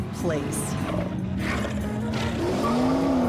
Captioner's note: snarling